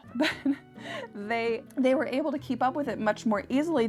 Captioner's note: laughs